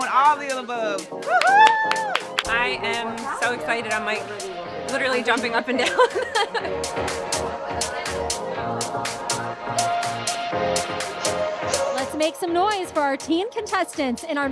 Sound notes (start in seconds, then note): 5.6 laughs; 7.7 upbeat music